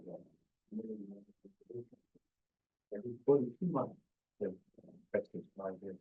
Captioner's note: presenter speaking faintly off mic